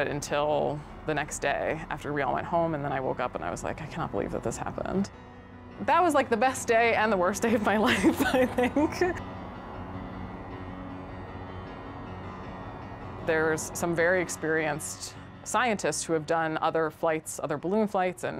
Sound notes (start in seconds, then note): 7.9 laughs; 9.4 somber music